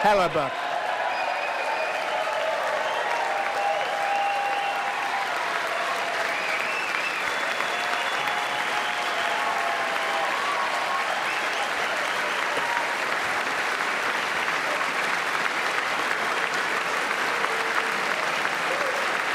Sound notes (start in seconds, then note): 7.3 cheers and applause